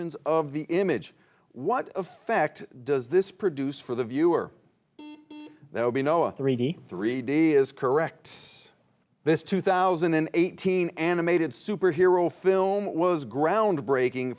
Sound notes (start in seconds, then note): 4.9 buzzer beeps